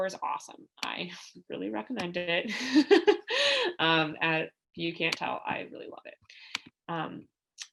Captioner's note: laughter